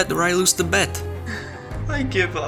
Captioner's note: sighs